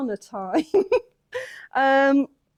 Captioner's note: chuckles